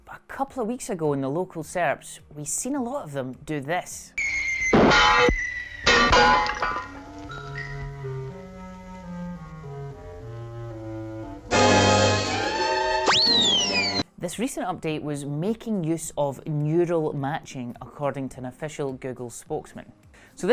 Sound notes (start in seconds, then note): 4.2 air whistling and item clanging on the ground; 4.2 item whistling through the air; 7.1 pensive music; 11.7 dramatic orchestral music; 11.9 air whistling